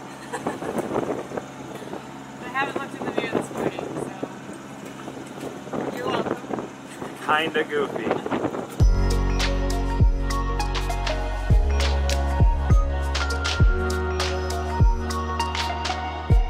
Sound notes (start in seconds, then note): 0.0 laughs; 7.0 laughs